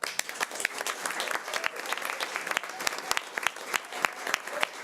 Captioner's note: audience applause